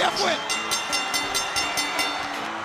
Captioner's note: bell ringing; crowd cheering